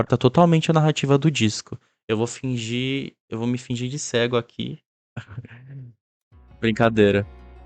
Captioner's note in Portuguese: risos